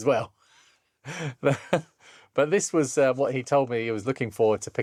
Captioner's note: laughs